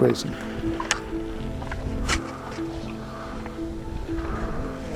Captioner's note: skis scraping